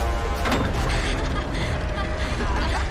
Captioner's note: corrie laughs